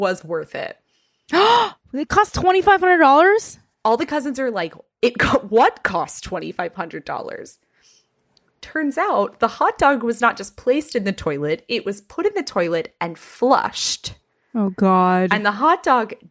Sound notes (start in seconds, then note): 1.3 gasps